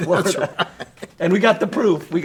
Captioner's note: both chuckle